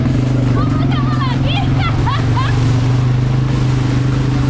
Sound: chuckled

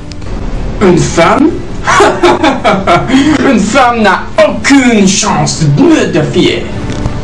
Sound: laughs snootily

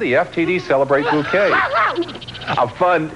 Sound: laughs

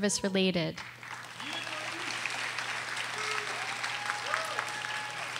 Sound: audience applauding

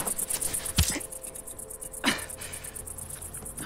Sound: grunting

